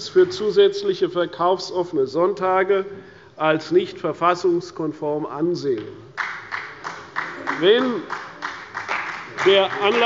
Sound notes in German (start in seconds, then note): 6.1 Beifall bei der CDU